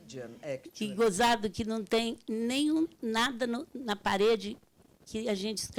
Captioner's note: speaking Portuguese